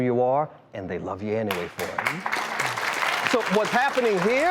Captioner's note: crowd clapping